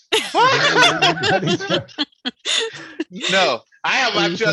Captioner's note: general laughter